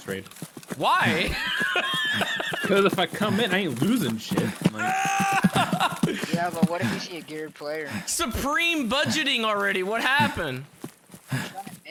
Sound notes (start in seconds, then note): 5.3 huff huff Huff